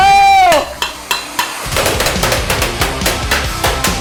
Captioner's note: beating on items